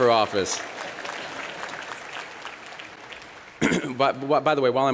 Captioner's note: applause